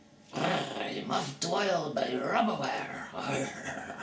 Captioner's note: grrrr